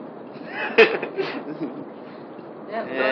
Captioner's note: giggles